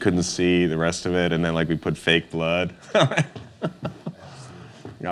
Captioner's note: laughs